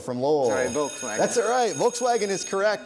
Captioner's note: bell ringing